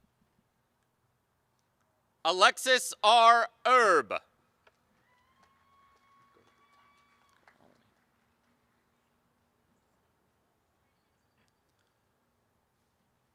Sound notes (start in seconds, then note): 0.0 applause and cheering; 2.2 applause